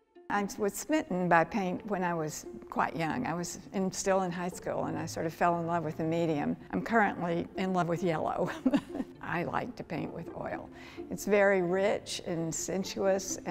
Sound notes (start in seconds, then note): 0.0 gentle music; 8.4 chuckles